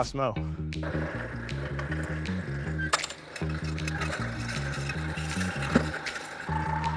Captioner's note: upbeat music; mower noises